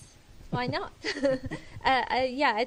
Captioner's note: laughter